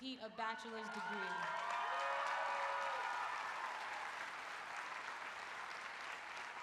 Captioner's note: applause